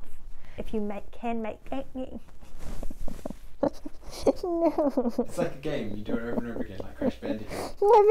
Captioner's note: laughs